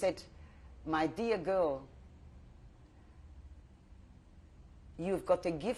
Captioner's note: pauses for 3 seconds